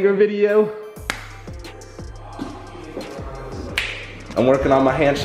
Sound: loud hand dapping

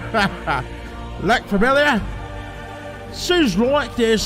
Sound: laughs

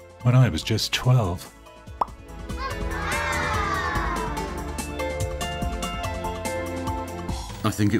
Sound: pop

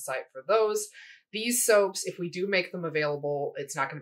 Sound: none

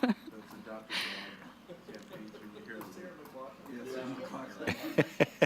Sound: indistinct conversation

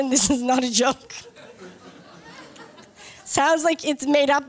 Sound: laughter

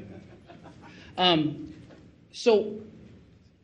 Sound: man laughing

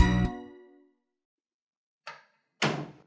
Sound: door closing

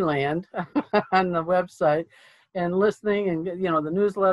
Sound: laughs

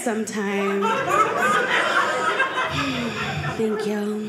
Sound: audience laughing

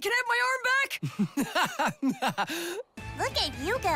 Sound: laughing

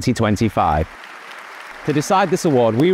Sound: audience applauding

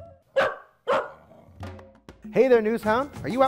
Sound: dog barking

